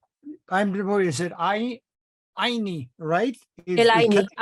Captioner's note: foreign language